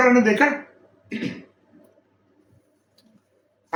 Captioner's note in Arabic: يُصفّي حلقه